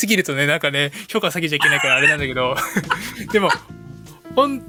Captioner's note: laughs